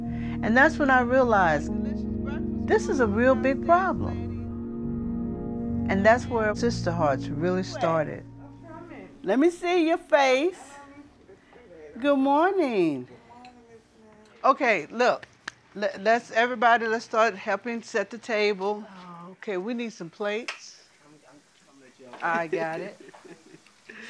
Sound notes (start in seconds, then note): 15.5 claps; 22.3 laughs